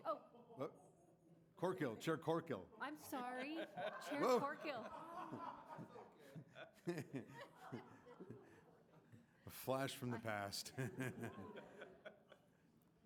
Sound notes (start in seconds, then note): 4.8 laughter; 10.0 laughter